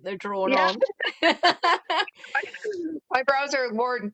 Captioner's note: laughter